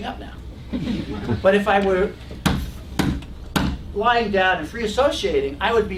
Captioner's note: laugh